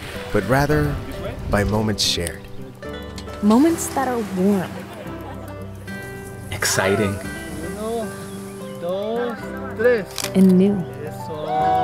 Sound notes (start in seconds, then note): 0.0 birds chirping; 0.0 tent rustling; 5.2 friends chatting; 5.8 grass rustling; 10.1 camera clicks